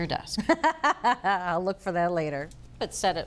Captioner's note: laughing